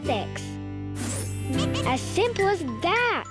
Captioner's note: air whooshing; planet laughing and clinking